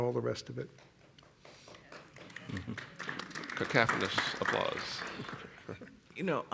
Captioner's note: applause